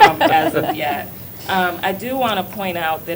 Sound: laughter

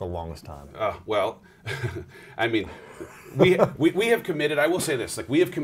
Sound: laughs

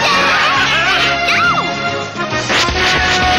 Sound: yelling

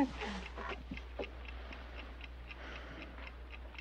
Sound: clock ticking

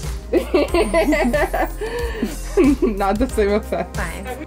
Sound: laughs

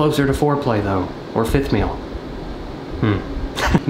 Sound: chuckles

